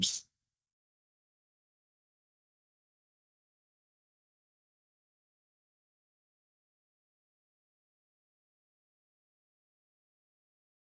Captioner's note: silence